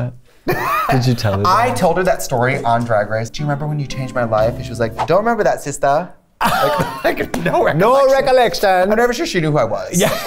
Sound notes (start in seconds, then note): 0.4 laughter; 6.4 laughter; 8.6 Jamaican accent; 10.0 laughter